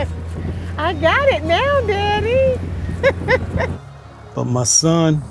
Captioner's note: laughs